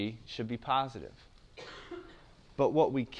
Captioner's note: cough